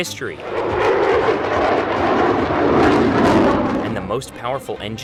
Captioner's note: plane engine roaring